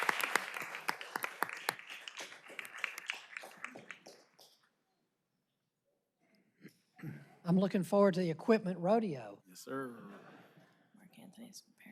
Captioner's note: applause